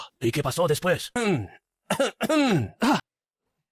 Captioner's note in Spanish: Cof, cof, cof